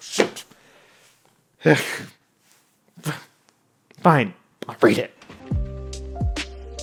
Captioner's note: groans